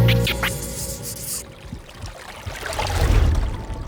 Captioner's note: water streaming